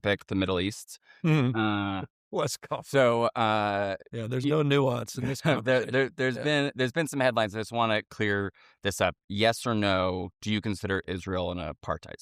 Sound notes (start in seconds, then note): 5.0 chuckles